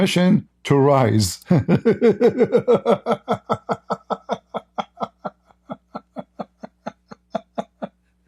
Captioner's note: Ketawa